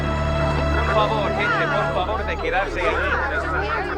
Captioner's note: voices chattering; slow music